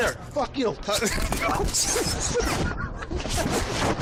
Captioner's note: laughing